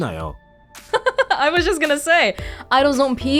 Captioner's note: chuckles